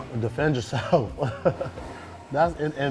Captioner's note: laughs